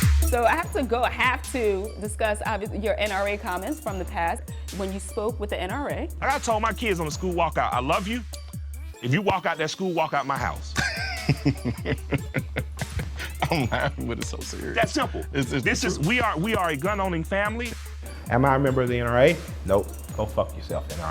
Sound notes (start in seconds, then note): 10.7 laughing